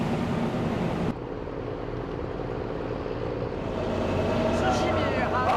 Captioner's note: sound of a ship engine